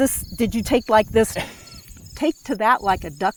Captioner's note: laughs